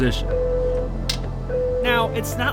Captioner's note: beeping noise